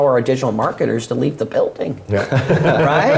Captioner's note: laugh